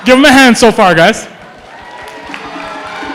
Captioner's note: applause